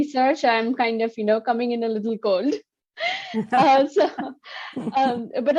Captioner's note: chuckling